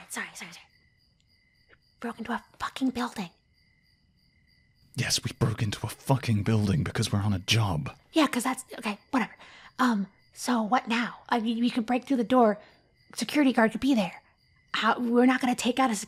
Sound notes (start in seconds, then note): 0.0 whispering; 4.5 whispering